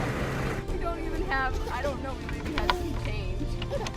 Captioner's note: baby giggling